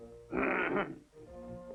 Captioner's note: clears throat